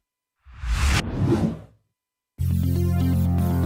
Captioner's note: swoosh; upbeat ambient music